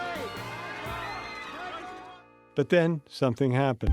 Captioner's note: yelling